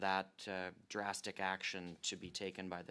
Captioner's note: speaking French